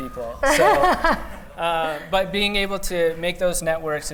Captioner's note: laughter